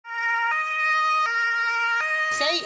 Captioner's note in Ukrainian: звук сирени